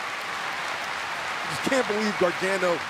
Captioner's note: crowd cheering